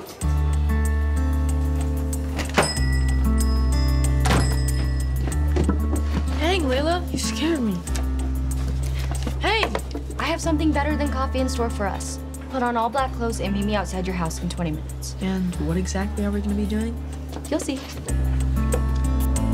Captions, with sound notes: (gentle music) (door bangs) - Dang, Leyla! You scared me. Hey. - I have something better than coffee in store for us. Put on all black clothes and meet me outside your house in 20 minutes. - And what exactly are we gonna be doing? - You'll see.